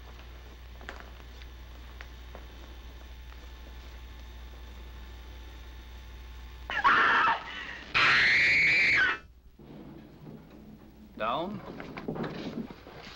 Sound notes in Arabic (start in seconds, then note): 6.7 صراخ; 10.4 تعليق صوتي